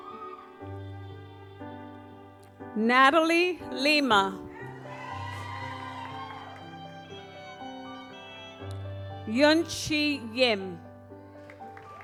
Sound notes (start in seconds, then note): 0.2 gentle music; 4.5 audience cheers